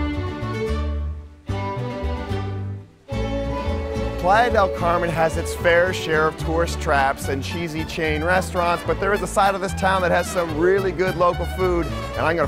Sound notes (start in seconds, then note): 0.2 playful violin music; 4.5 voiceover